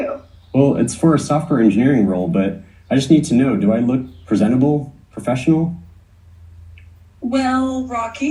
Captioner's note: male AI voice